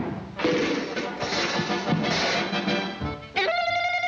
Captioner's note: cleaver thudding; dishes clattering; Woody taunting